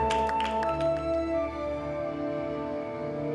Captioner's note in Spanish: aplausos